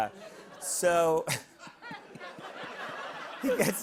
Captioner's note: laughter